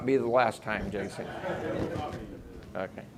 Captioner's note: audience laughing